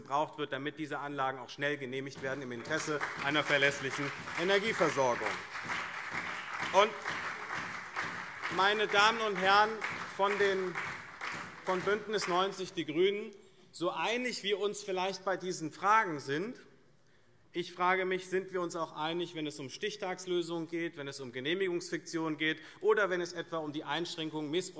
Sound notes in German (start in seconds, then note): 6.4 Beifall SPD und vereinzelt BÜNDNIS 90/DIE GRÜNEN